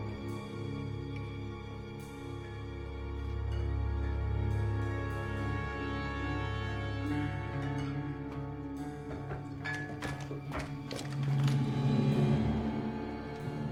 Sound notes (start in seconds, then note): 6.4 bottles clanking